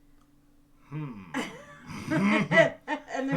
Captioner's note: laughs